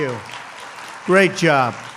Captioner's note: applause